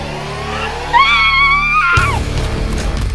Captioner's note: screaming